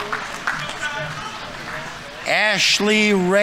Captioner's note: audience applauding; audience members cheering